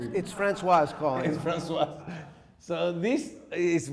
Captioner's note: laughing